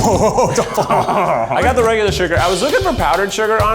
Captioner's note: laughs